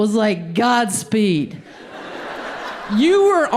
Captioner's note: audience laughs